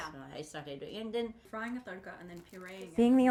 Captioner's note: chatting